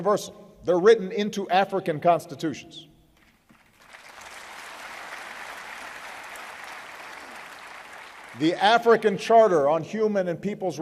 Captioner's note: applause